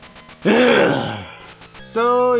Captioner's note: angry sigh